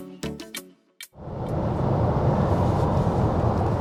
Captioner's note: car engine